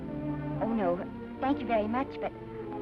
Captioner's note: none